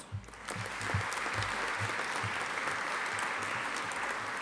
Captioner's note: audience applauding